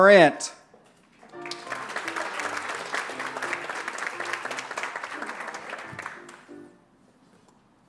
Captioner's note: applause